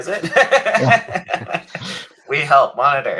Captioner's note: all laughing